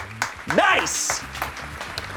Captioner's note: crew applauds